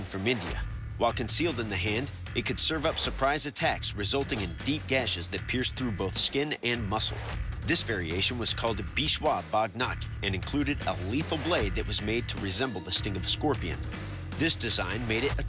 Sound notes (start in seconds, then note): 7.8 non-english speech